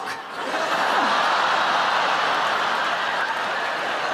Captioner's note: audience laughing